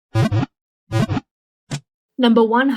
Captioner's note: Pokéball wiggle sound